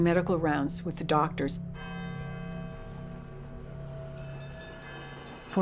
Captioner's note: bell tolling